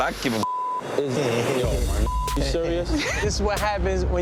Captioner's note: beep